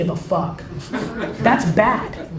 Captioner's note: laughs